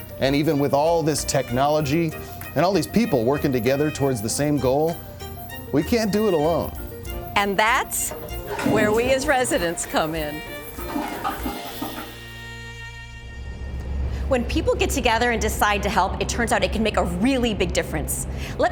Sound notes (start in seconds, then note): 8.6 toilet flushing